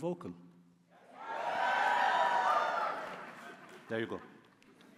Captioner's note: cheering